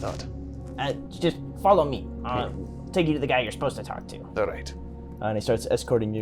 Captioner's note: stutters